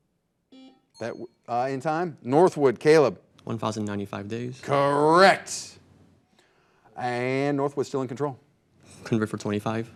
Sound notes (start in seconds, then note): 0.5 buzzer buzzing; 0.9 bell dings